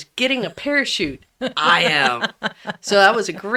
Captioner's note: laughs